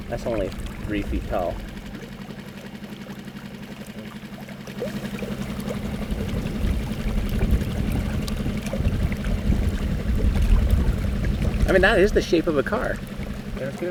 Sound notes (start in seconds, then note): 1.5 boat engine revving; 1.5 water splashing